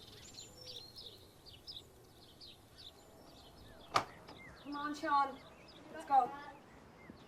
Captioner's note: birds chirping